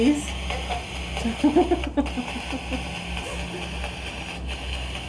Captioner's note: laughing